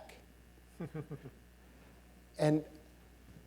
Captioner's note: chuckling